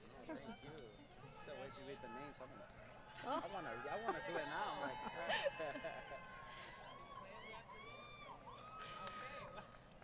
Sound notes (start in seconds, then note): 4.8 laughter; 5.7 crowd Cheering